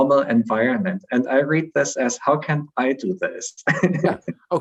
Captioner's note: chuckles